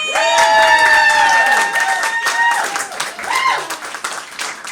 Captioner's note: applause!!